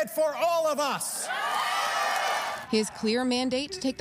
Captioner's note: applause